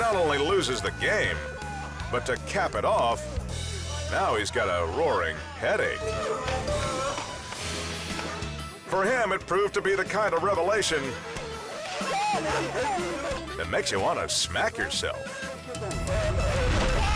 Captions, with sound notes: He not only loses the game, but to cap it off, now he's got a roaring headache. (transition whooshes) For him, it proved to be the kind of revelation (group laughing) that makes you want to smack yourself.